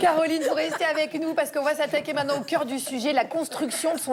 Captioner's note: laughter